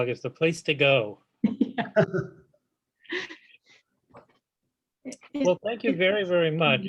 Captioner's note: laughs